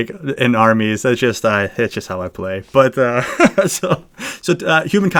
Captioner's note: laughs